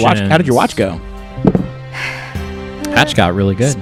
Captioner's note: die rolls